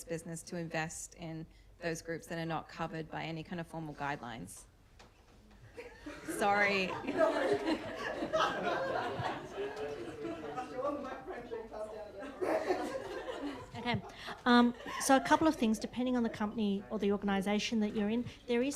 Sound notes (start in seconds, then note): 5.7 laughter; 11.2 mumbling about blood pressure